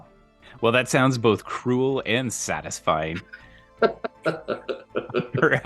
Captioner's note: pause for completely genuine laughter